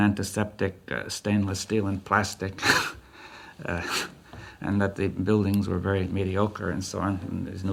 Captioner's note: laughs